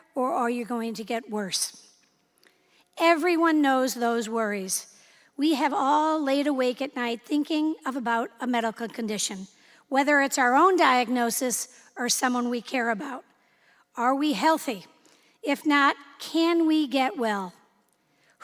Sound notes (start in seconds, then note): none